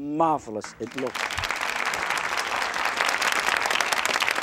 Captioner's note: applause